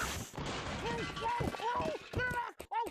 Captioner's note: clanging